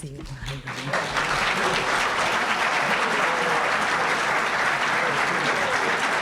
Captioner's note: applause